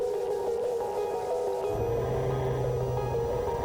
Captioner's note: computerized humming